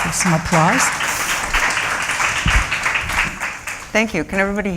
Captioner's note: applause